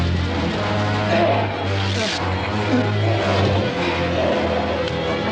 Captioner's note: sinister music; groaning